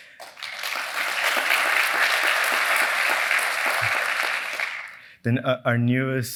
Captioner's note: applause